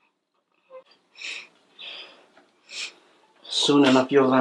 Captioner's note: crying